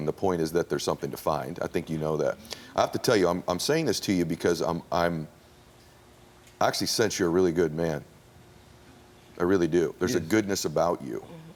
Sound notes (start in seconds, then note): none